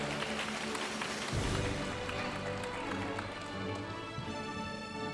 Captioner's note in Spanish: aplausos de la audiencia